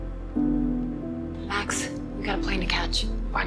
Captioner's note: voiceover